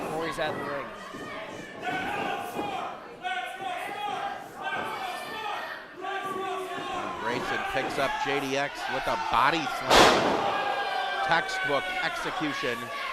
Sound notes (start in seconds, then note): 6.5 boos; 9.8 bang; 10.0 crowd boos